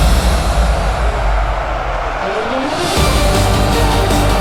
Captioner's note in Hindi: चीखने की आवाज़